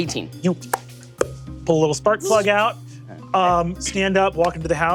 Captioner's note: mimics popping